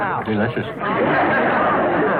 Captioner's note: laughter